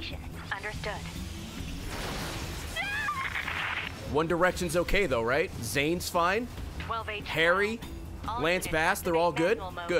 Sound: screams

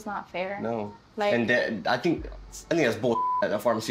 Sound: beep

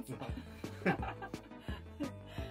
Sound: laughter

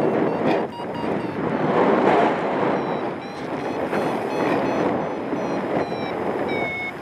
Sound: alarm sounds; strong wind gusts; alarm slows; strong wind gusts; alarm continues; wind whooshing

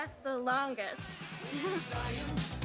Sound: giggling maniacally

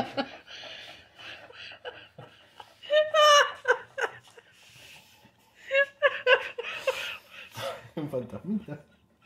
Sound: actual cry and lack of air for laughing so much

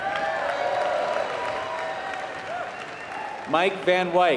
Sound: applause

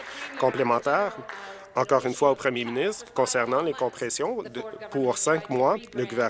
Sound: applause

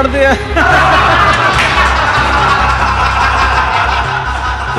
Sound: laughter

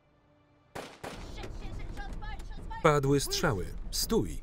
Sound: gun firing; intense orchestral music

